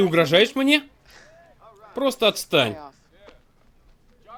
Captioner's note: scoffs